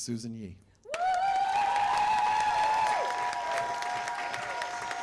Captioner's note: cheers and applause